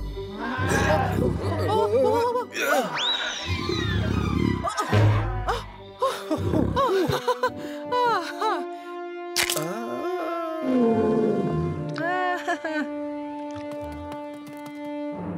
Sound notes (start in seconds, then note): 9.3 snaps